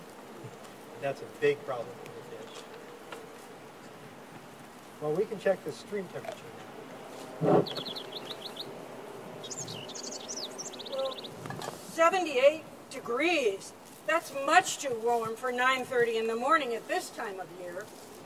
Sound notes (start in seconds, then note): 7.7 birds chirping